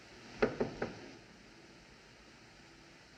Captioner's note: hollow Knock